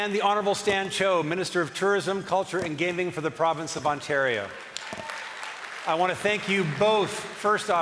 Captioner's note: cheering and applause